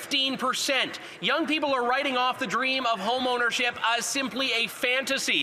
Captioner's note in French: voix de l'interprète